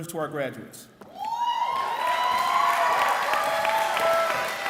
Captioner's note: cheering